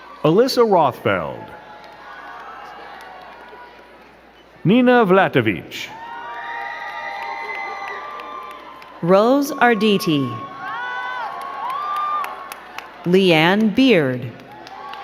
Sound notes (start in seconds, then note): 0.0 crowd cheering and clapping; 2.4 crowd cheering; 6.4 crowd cheering and clapping; 11.0 crowd cheering and clapping